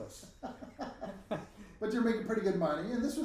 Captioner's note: both laughing